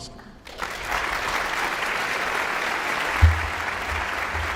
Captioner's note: audience applauds